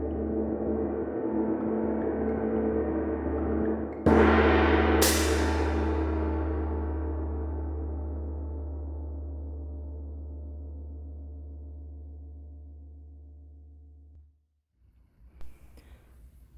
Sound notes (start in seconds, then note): 3.1 gong and a click